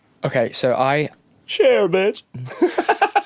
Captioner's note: Cher voice; laughter